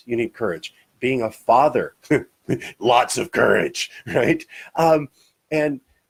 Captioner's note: laughs